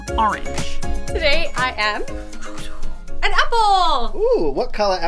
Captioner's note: swishing